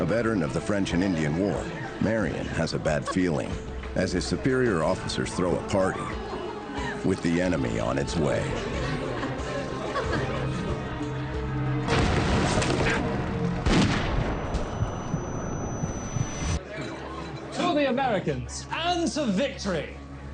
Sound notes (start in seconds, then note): 13.4 gunfire cracks